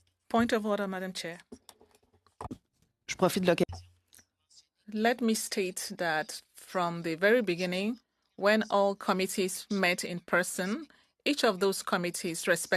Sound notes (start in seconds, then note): 3.0 speaking French